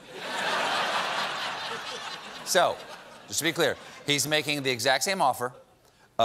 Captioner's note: laughter